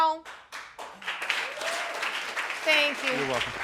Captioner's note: audience applauding